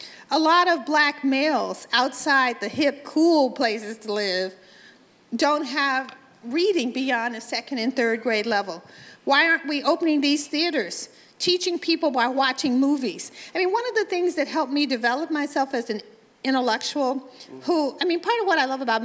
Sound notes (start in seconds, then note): none